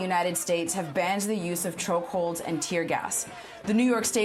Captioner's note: crowd Chanting